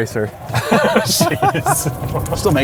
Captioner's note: laughing